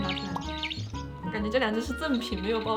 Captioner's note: birds!!